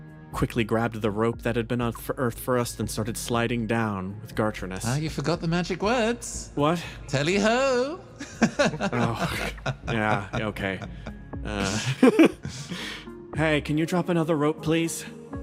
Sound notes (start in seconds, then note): 8.2 chuckles